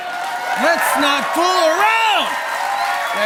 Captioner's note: cheers and applause